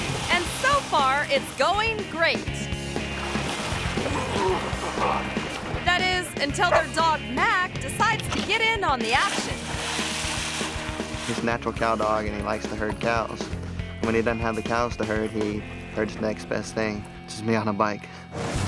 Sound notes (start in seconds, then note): 3.3 grunts; 18.4 cheerful music